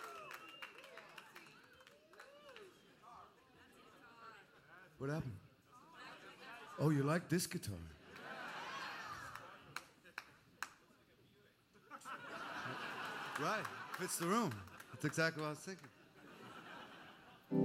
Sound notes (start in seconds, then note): 0.0 cheers and applause; 7.1 cheering; 10.1 cheering; 11.8 laughter